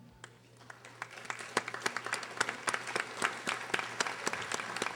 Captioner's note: audience applauding